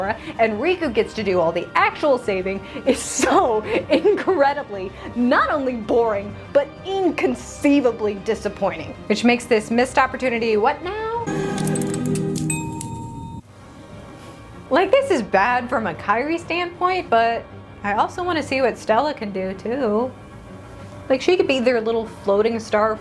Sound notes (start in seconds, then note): 11.3 analog Clicking; 12.4 ding!